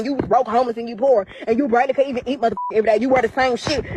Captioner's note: beep